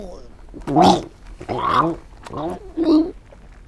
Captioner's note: choking continues